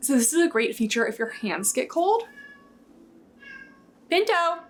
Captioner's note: Pinto meowing